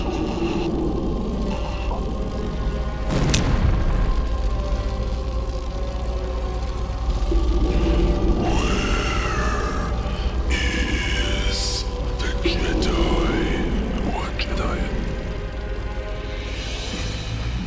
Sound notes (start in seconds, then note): 3.4 neck snaps